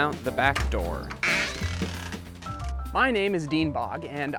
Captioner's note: door hinge creaking